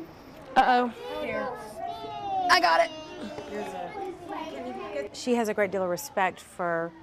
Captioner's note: kids talking